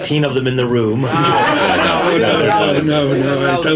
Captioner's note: audience laughing